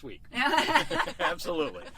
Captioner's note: laughing